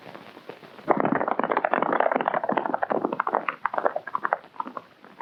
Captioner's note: hooves clomping